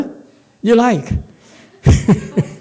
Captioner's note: laughs